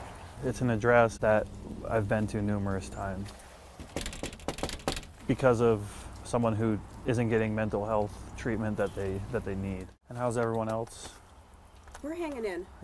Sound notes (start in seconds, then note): 3.8 knocks